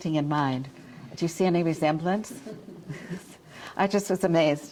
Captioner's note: audience chuckles